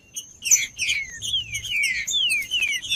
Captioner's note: trinca ferro cantando